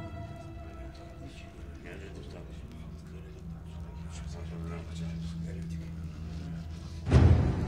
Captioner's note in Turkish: Fısıltılı konuşmalar